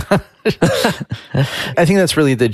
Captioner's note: chuckles